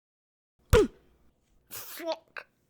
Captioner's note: hit and grunt of pain